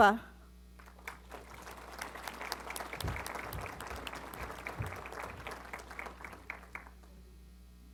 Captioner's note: applause